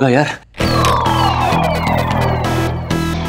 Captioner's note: Door opens